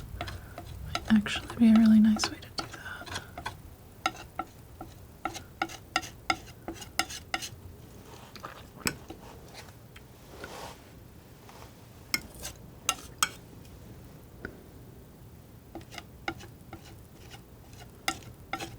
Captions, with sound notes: might actually be a really nice way to do that [tapping]